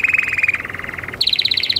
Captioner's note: happy canary noises